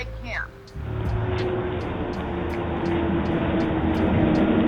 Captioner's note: street noise